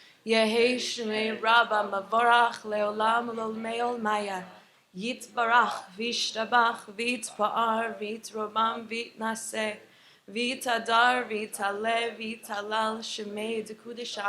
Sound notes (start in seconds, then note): 0.5 continues to recite the Mourner's Kaddish in Hebrew